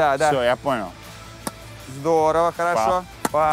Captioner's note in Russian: Удар